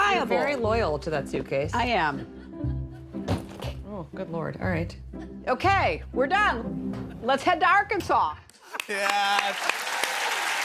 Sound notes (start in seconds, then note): 3.2 thunk; 8.7 cheers and applause